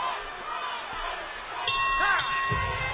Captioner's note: bell rings